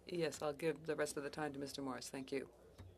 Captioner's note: speaking French